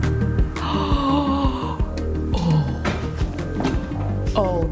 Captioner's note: upbeat music; gasps